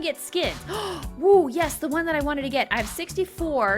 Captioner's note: gasping